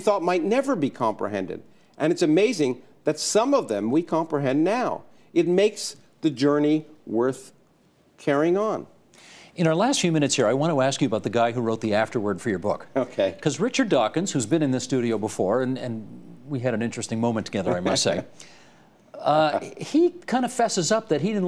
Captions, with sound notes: IT MAKES THE JOURNEY WORTH CARRYING ON. IN OUR LAST FEW MINUTES HERE, I WANT TO ASK YOU ABOUT THE GUY WHO WROTE THE AFTERWORD FOR YOUR BOOK. OKAY. BECAUSE RICHARD DAWKINS, WHO HAS BEEN IN THE STUDIO BEFORE, AND WE HAD AN INTERESTING MOMENT TOGETHER, I MUST SAY, HE KIND OF FESSES UP THAT HE DIDN'T LIKE YOU VERY MUCH WHEN HE FIRST ENCOUNTERED YOU. [chuckling] AND YET NOW, HERE HE IS, WRITING THE AFTERWORD TO YOUR BOOK.